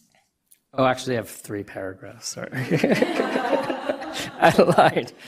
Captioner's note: laughter